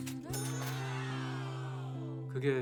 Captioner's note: cash register chimes